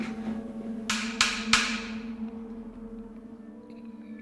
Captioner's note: tapping